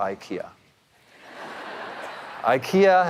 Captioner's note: audience laughing